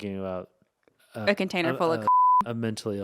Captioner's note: beep